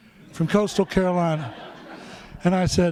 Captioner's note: laughter